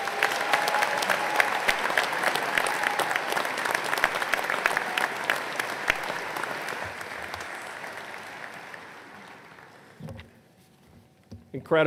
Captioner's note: applause